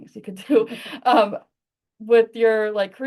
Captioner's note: laughter